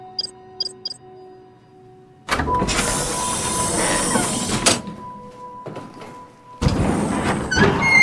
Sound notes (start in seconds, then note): 0.6 keypad beeping; 2.2 doors open, close